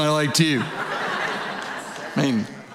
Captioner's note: audience laughing